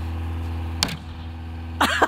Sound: thunk

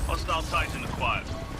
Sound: radio

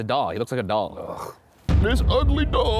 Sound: scoffs

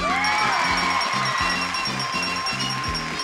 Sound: audience cheering; bell pinging and game music

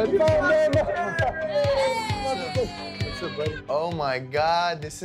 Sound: cheers

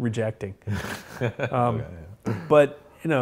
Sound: laughs

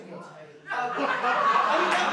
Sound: laughter

